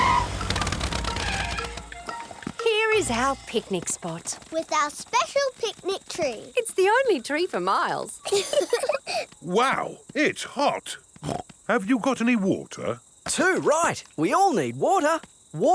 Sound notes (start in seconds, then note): 0.0 tires screeching; 8.2 laughing; 11.2 snorts